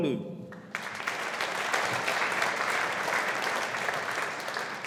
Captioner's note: audience applauding